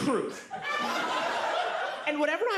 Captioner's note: audience laughs